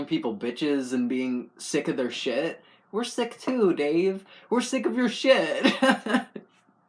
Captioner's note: laugh